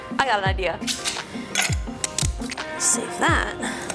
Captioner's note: ice clinking